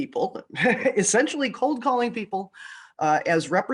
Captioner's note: laughs